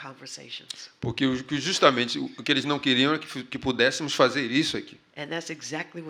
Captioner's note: speaking portuguese